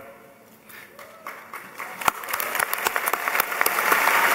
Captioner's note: applause